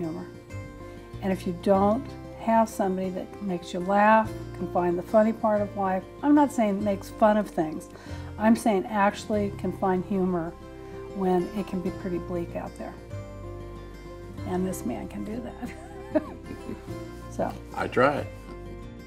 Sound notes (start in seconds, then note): 15.6 laughs